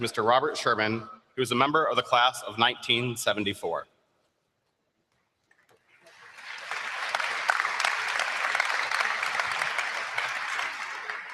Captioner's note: applause